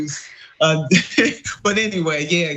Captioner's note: laugh